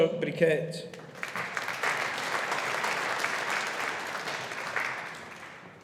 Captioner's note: audience applauding